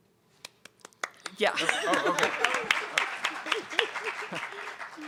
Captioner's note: audience applauding